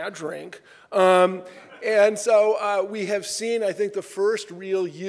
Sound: laughter

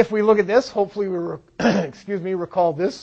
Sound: clears throat

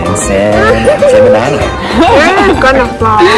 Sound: laughing

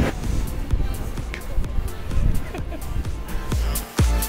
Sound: laughs

